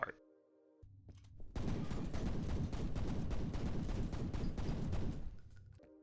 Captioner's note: sound of local idiot perishing via gymnastics & gunfire